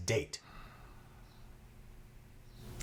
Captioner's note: sighs